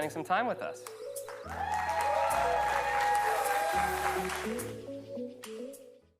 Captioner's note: upbeat music; audience cheering